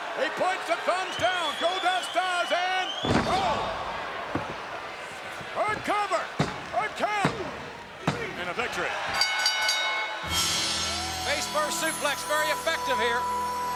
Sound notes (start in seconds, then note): 9.1 bell dinging